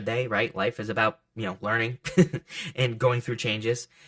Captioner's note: laughs